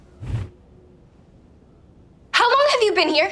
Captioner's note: Agnes whooshing